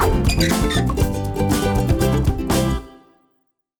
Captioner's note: wind whooshing; hinges squeaking